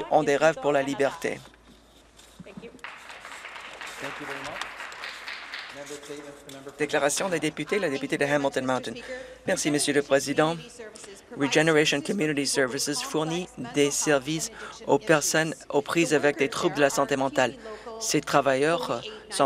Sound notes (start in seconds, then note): 5.8 speaking Alternate Language